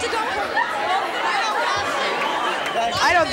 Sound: panel and audience yelling

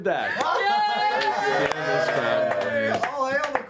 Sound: yelling

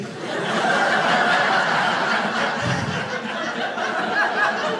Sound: audience laughing

